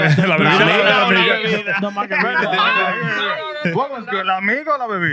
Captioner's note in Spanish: Hablando español